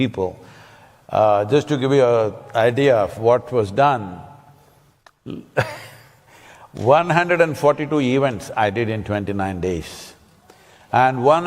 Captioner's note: laughs